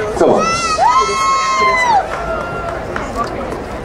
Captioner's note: crowd cheering